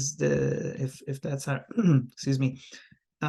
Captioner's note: clears throat